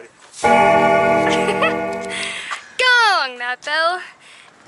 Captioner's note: loud gonging sound